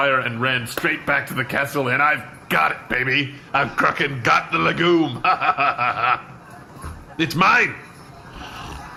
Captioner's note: laughs